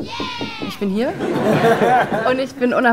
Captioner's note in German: Gelächter